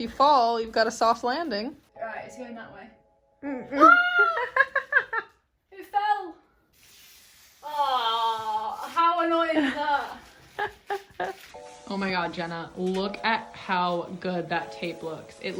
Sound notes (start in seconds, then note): 3.7 screaming; 10.4 laughing